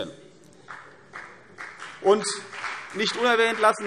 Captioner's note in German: Beifall CDU